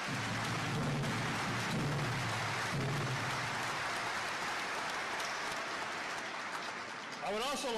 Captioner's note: applause